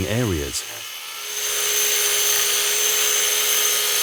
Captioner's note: sander grinding